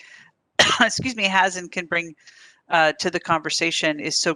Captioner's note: coughs